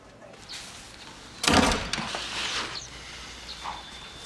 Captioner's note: clanking